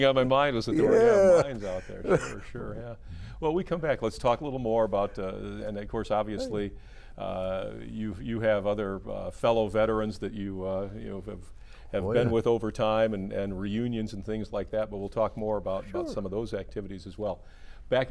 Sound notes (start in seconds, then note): 0.7 laughing